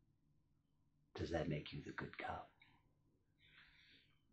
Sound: none

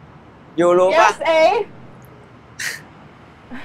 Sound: in Thai

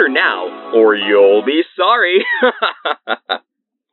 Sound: chuckle

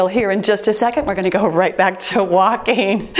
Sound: timer beeps

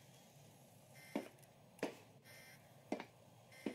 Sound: footsteps

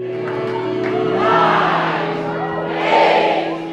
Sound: crowd

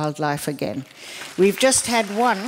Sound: applause

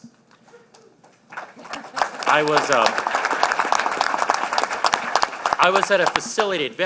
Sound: applause

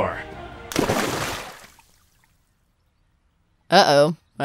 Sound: water splashes

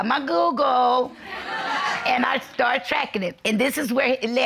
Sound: audience laughing

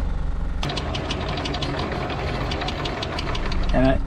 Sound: chain rattles

